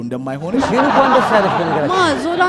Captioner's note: laughter